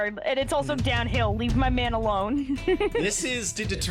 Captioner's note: giggles